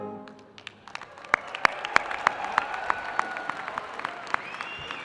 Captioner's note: audience applauding